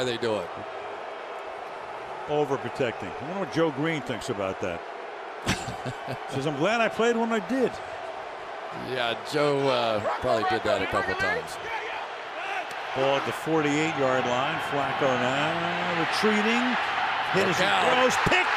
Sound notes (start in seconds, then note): 5.4 laughs